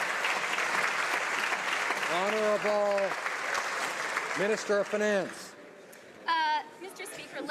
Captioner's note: some Applause